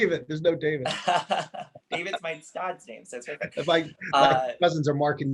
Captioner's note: laughing